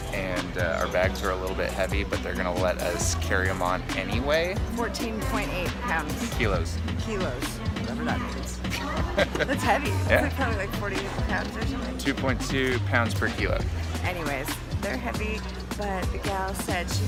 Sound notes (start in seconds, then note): 8.7 laughs